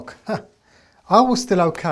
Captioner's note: laughs